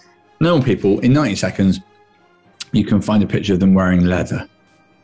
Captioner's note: none